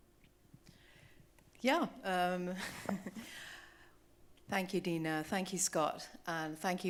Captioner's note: chuckling